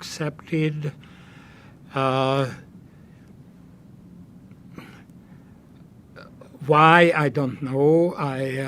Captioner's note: pauses 6 seconds